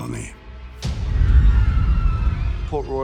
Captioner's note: people screaming